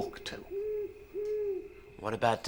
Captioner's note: owl hooting